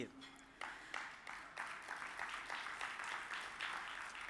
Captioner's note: audience applauds